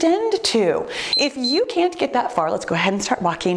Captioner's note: timer beeps